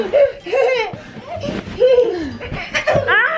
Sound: children laughing

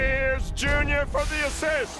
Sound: steam hisses

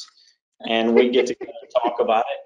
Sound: laughing

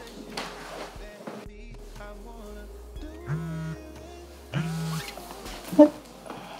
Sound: phone buzzes

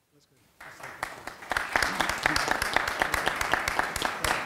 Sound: audience applauding

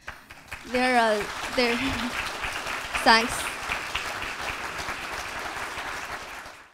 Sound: applause

